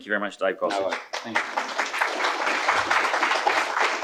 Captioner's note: audience applauding